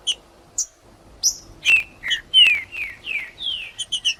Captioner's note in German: trinca ferro cantando